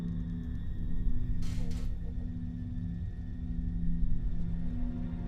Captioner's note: refrigerator creaking